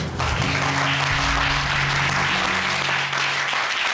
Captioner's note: applause